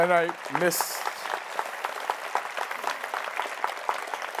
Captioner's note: audience applauds